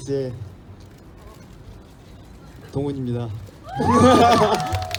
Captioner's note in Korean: 함성